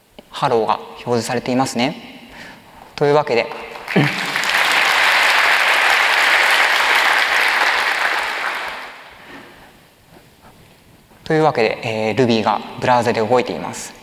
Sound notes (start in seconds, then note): 7.1 applause